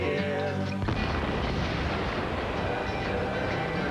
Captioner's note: explosion